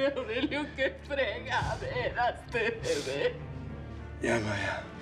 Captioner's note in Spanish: habla entre dientes